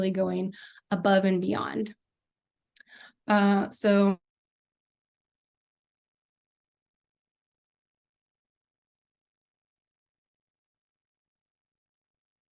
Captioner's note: connectivity issue - no audio